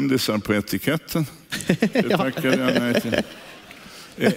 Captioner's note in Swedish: skrattar